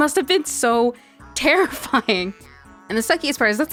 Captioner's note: laughs throughout